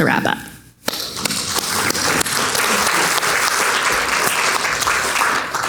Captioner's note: audience clapping